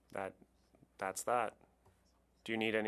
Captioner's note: speaking French